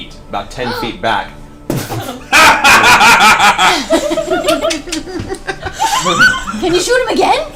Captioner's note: all laugh